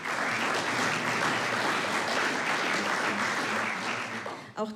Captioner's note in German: Applaus